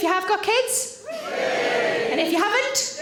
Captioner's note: audience Cheering